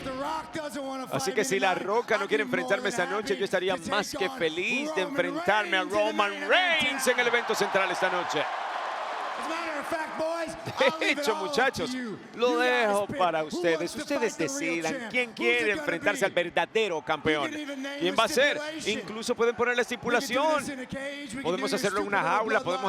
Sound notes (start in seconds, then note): 6.8 applause